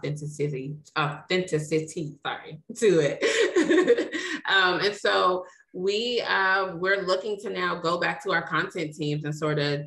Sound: laughs

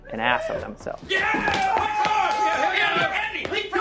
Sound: yelling

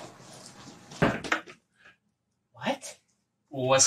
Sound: bags rustling

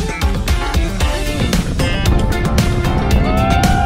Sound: wind noise

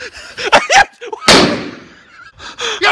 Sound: dynamite explodes

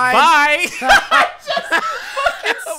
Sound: laughing

